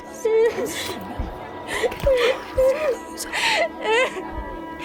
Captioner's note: child's Voice; crying louder